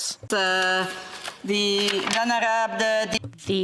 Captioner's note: speaking French